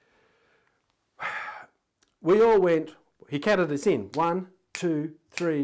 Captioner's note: sighing